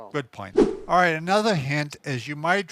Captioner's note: whooshing sound